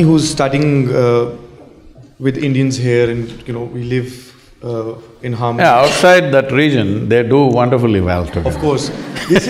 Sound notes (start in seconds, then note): 8.2 laughter; 8.4 Sadhguru Laughs